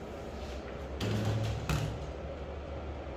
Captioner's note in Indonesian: suara pintu oven